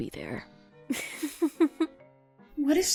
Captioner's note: giggles